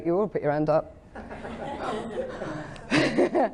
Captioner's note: audience laughing